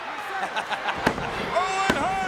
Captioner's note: Jerry laughs